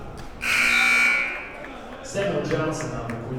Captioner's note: buzzer blares